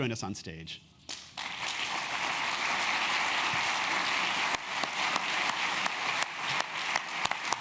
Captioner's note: applause